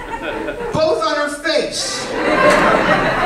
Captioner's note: laughter